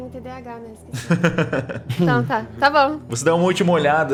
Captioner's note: laughter